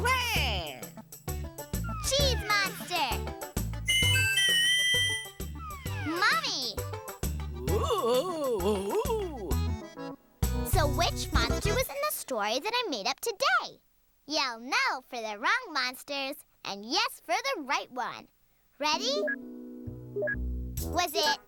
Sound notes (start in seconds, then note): 3.8 whistles; 7.6 moaning